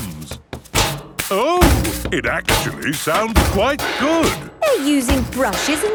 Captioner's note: rhythmic clanging